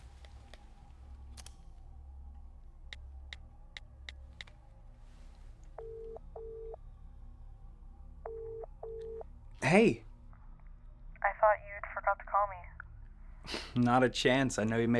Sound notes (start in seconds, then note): 3.1 phone buttons clicking; 5.8 phone ringing; 14.1 scoffs